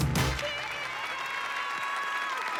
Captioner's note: audience applauding; cheering